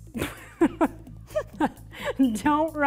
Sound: laughs

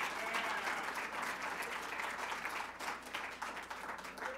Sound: applause

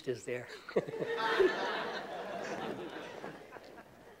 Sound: laughter

